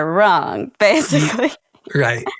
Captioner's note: laughs